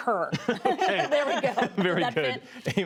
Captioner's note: laughter